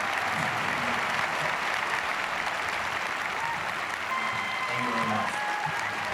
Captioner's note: students cheering and applauding